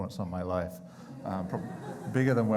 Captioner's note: crowd chuckling